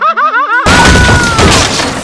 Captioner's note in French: bam